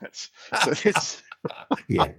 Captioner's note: laughing